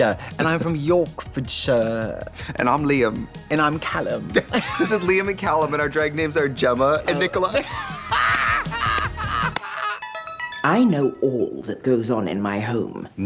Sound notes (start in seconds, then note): 7.2 Katya laughs; 8.1 Trixie cackles; 9.9 musical flourish